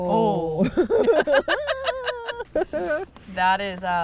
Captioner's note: laugh